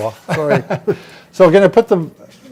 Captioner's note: laughing